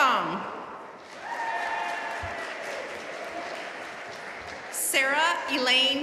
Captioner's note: audience cheering and applauding